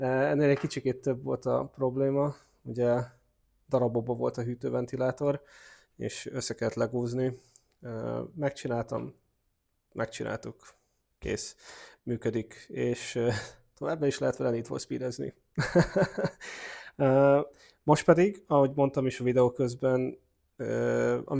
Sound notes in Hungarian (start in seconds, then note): 15.6 nevetés